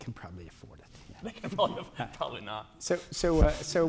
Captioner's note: chuckles